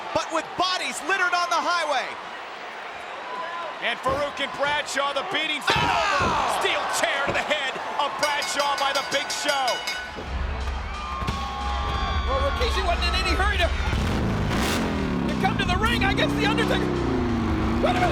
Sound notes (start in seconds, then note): 8.1 bell rings; 13.8 bike revving